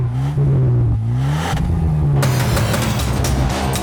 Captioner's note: engines revving; upbeat music